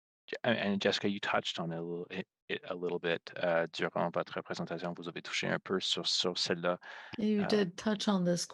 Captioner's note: speaking French